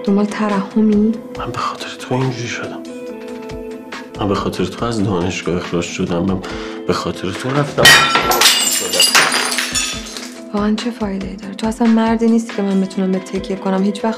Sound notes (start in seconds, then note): 7.8 glass breaking